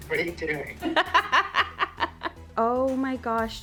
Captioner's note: laughs